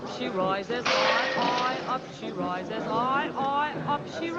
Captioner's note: bottle smashes